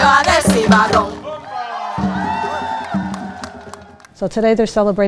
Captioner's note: cheers and applause